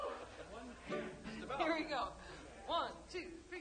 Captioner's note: laughing